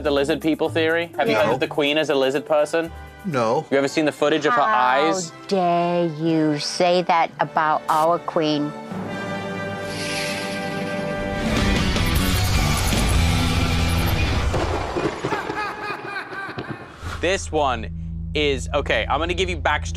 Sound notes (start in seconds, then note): 12.8 lightning strikes; 13.7 laughs